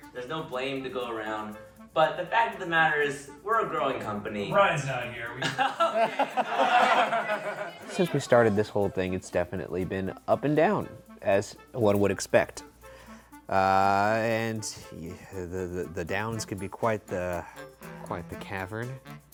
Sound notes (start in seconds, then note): 5.4 all laughing